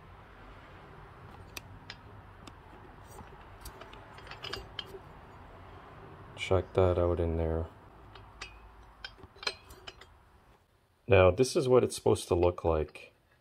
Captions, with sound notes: (rattles) Check that out in there. (rattles) Now this is what it's supposed to look like.